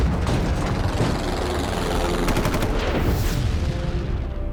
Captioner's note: airplane whizzing, gunshot sounds